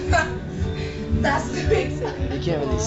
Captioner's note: laugh